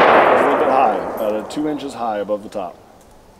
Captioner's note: gunshot